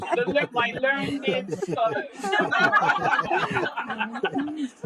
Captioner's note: laughter drowns out speaker